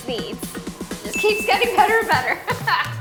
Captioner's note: bell dings; laughs